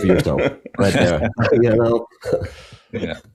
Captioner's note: everyone laughing